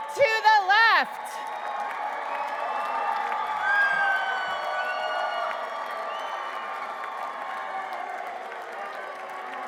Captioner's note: applause